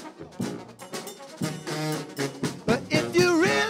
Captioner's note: bell